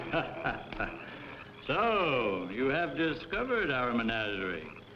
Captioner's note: laughter